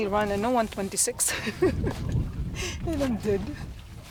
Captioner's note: laughing loudly